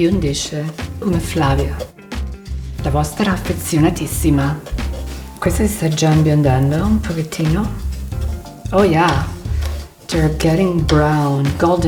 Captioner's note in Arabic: يتحدث الإيطالية